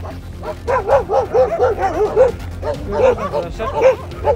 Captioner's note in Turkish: Havlama sesleri